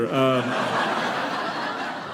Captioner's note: audience laughing